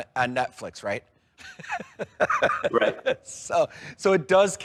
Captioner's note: laughing